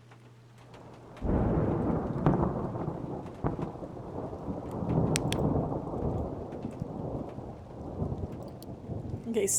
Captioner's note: thunder Rumbling